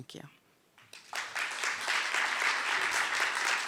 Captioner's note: applause